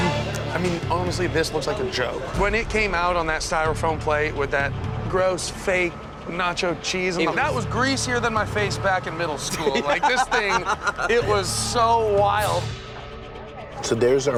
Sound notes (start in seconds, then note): 9.4 laughing